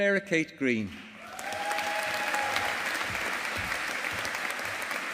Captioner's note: audience applauding